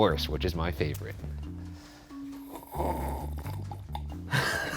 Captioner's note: slurping